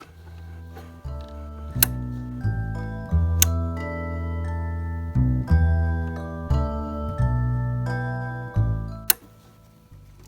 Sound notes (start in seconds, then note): 1.7 clicking; 9.0 click!